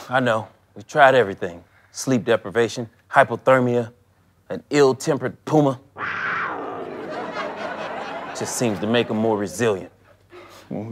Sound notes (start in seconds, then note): 5.9 puma scream; 6.7 audience laughter